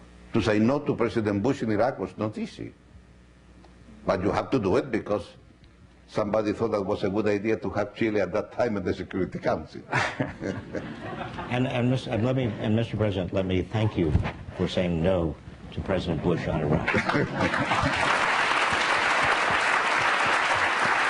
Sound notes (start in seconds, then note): 9.9 laughing; 17.3 applause